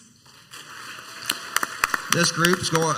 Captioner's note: crowd applauds